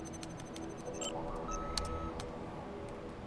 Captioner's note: computer beeps